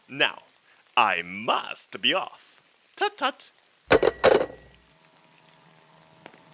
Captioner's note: SFX: Hang up; sfx: slow footsteps